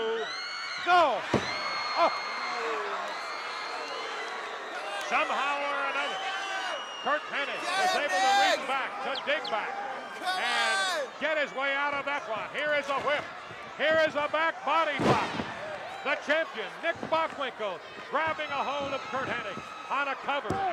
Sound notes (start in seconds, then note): 1.5 applause